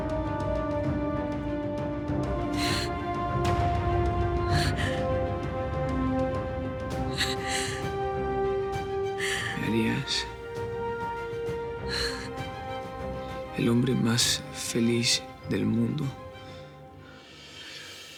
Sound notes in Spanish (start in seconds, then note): 7.0 Solloza Nina